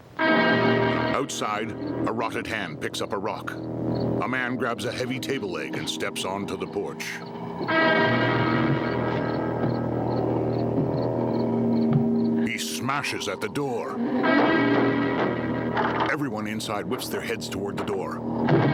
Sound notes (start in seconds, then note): 0.3 dramatic music; 3.4 crickets chirping; 9.8 moaning; 13.8 banging on door